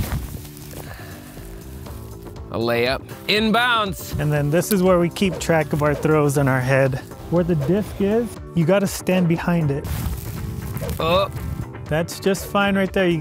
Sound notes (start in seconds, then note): 0.0 clothes rustling; 0.8 sighing; 10.0 clothes rustling